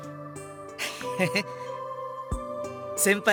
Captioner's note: chuckle